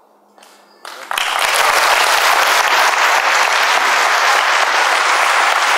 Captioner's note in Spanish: aplausos